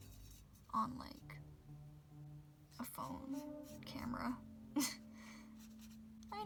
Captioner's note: laughs